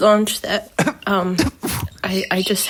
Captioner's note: laughing